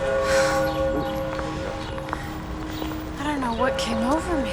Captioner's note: church bell ringing